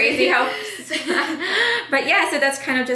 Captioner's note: laughs